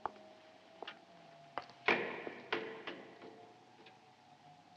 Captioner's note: creaking